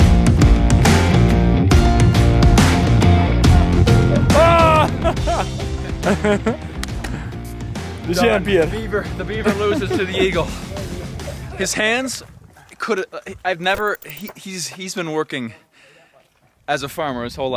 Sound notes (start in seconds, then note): 5.4 laughing